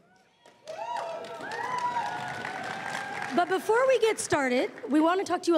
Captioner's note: crowd cheering and applauding